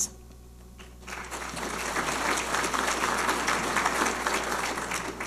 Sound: audience applauding

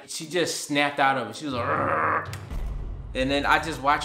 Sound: growls

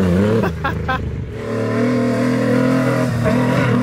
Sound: laughing

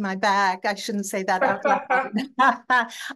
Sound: both laughing; faintly speaking

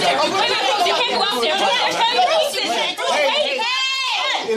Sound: indistinct chatter

